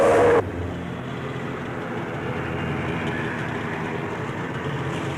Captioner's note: growling